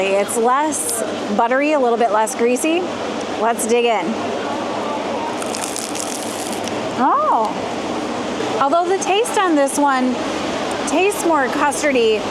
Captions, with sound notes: It's less buttery, a little bit less greasy. Let's dig in. [crunch sound] Oh! Although the taste on this one tastes more custardy,